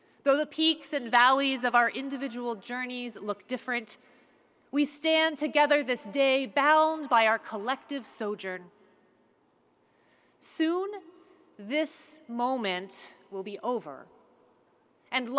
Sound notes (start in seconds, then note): none